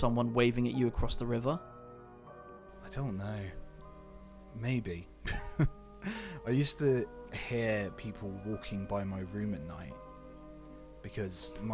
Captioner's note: laughs